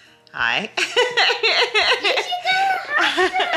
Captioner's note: laughing